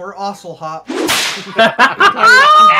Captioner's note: whip crack; uproarious glee